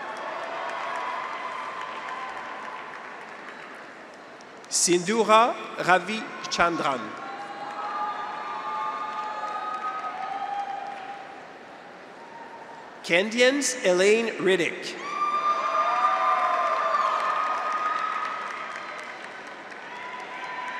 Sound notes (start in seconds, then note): 0.0 audience applauds; 0.0 graduates cheer; 7.2 audience applauds; 8.1 graduates cheer; 14.8 graduates cheer; 15.8 audience applauds